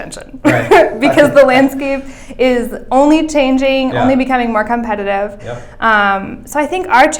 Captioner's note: chuckles